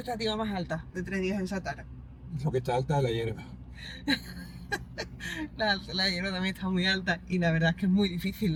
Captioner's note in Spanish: risas